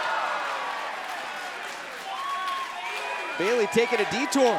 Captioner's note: crowd cheering